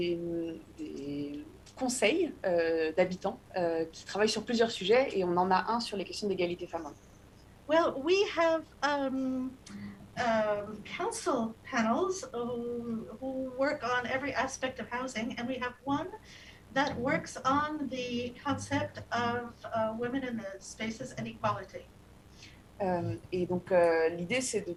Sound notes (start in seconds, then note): 9.6 speaking non-english